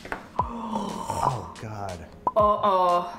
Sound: timer ticking

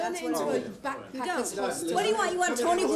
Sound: reporters chattering

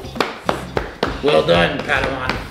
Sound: claps

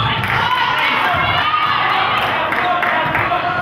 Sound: crowd claps

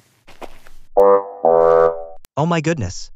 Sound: FX - Footsteps - On Multiple Dirt - Walk; FX - Horn Lose

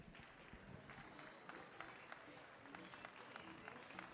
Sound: audience clapping

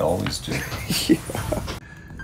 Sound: chuckling; creepy music

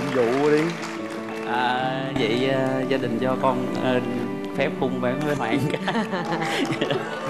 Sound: laugh

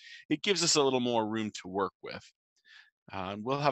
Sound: none

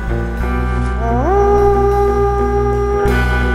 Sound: horn

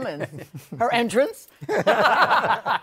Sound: laughter

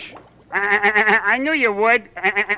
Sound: bert laughs

